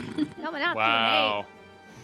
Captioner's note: chortle